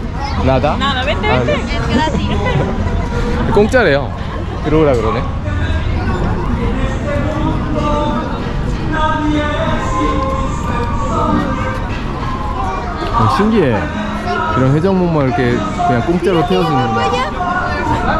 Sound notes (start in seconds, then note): 9.6 starts muttering